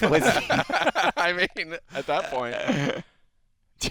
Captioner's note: laughter